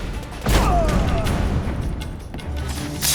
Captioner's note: thunderous boom; groan